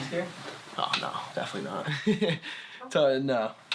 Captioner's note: laughing